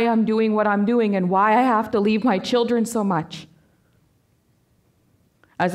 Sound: voice quavering

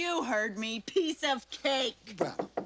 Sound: knocking on door

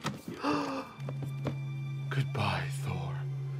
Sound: Max gasps

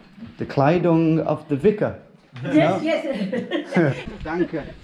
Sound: laughing; speaking foreign language

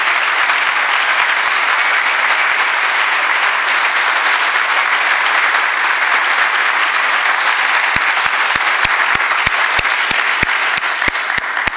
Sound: applause

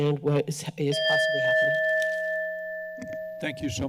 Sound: timer beeps

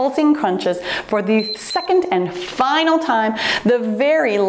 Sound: timer beeps

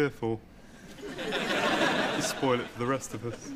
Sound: audience laughs

